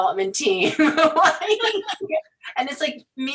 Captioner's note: laughing